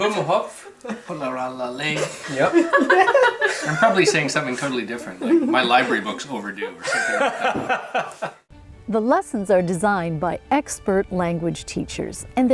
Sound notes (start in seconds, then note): 0.2 speaking foreign language; 1.9 man speaking foreign language; 2.9 group laughing; 7.8 group laughing